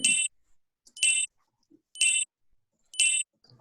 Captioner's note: countdown beeping